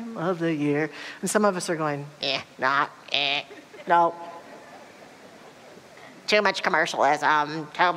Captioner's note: audience laughter